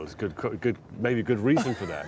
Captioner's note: all chuckling